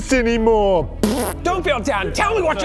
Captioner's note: pffpt